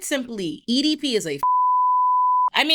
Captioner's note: beep